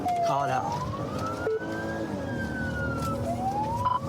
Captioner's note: siren blares